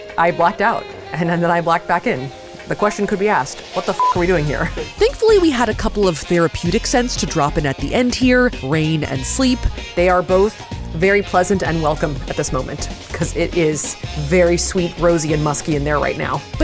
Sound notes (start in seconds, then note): 4.0 beep